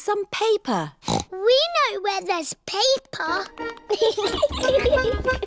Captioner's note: snorts; giggling